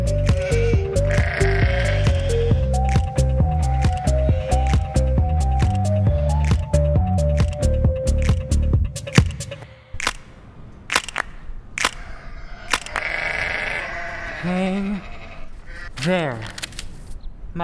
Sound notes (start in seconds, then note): 11.9 sheeps baas